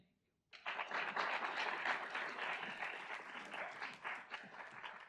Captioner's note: audience applauds